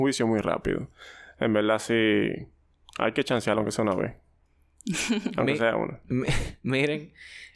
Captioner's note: laughs